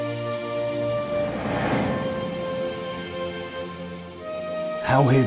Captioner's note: memory image whooshes